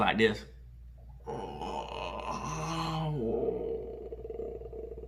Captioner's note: groaning